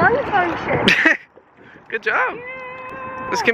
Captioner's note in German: lacht